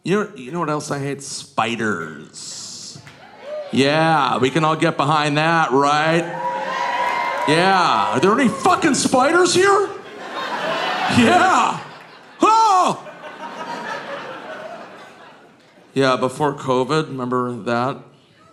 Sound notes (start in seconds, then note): 3.9 audience cheering; 6.4 audience cheering